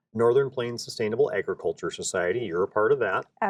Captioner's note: laughs